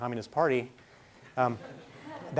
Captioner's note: laughing